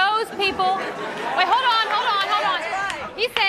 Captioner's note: laughter